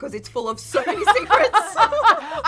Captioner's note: all laughing